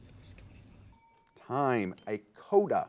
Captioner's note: ding